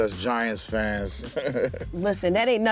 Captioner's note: laughs